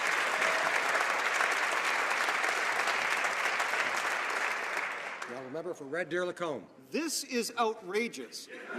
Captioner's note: some Applause